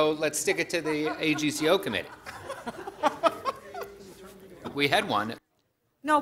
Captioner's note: laughter